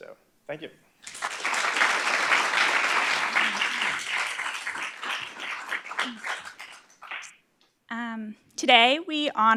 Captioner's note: applause